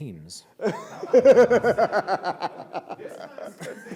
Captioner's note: laughter